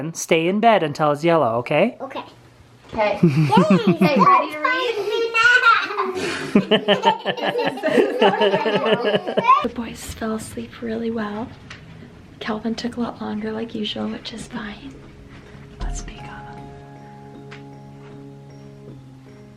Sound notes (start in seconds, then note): 6.7 laughing; 16.9 gentle music